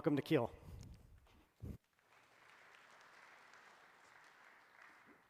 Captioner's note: applause